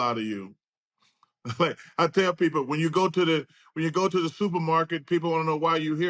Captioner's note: chuckles